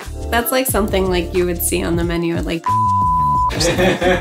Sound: beep; laughing

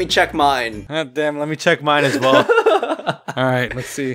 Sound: laughs adorably

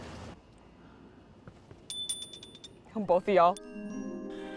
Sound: chime dinging

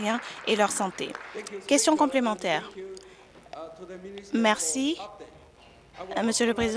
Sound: applause

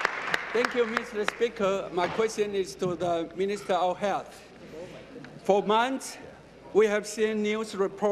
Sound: applause

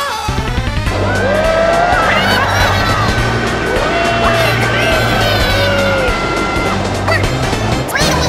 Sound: screaming; Inkling noises; Inkling gibberish

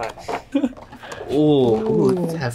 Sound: laughs

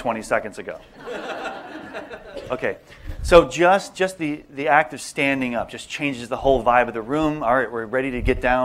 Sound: laughter

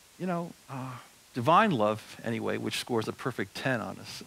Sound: none

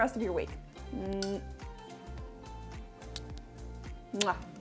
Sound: kissing

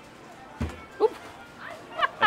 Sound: wood thudding; laughing

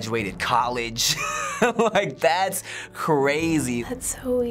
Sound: chuckling; quietly

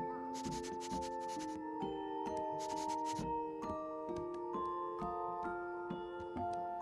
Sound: Scooby sniffs and soft music plays

